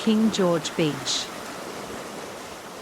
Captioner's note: waves